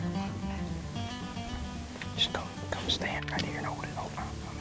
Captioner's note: whispering together